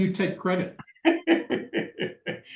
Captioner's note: laughs